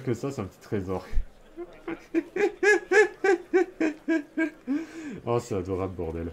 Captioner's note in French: Rires